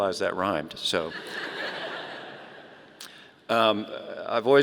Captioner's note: audience laughing